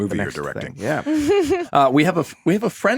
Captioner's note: laughing